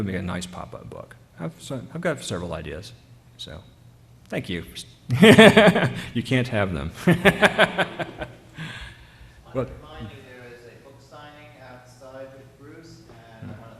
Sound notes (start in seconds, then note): 7.0 laughter